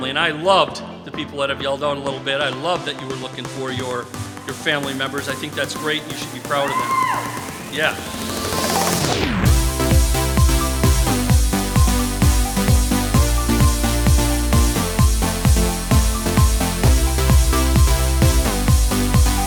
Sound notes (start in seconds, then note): 6.6 single audience member cheers